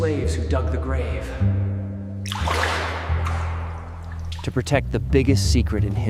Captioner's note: water splashing